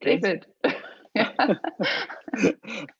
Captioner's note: laughs